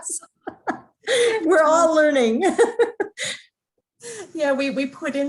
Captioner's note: laughs; chuckling